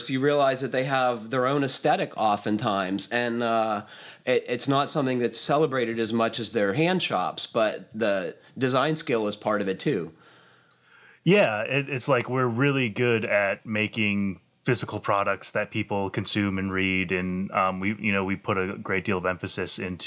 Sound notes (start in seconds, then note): none